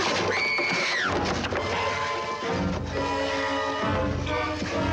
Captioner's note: Nicole screams